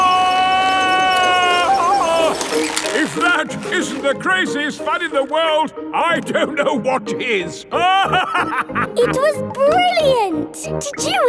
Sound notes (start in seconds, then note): 0.2 yelling; 7.8 laughing